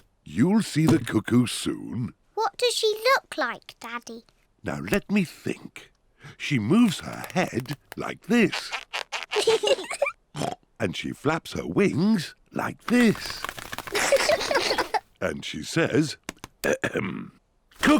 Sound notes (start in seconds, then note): 9.2 both laugh; 10.3 oinks; 13.9 both laugh